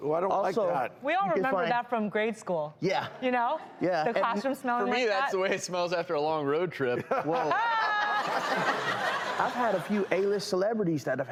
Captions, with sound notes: I don't like that. We all remember that from grade school. The classroom smell like that. For me that's the way it smells after a long road trip (laughing). I've had a few A list celebrities that have